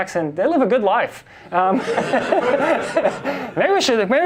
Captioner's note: class and instructor laugh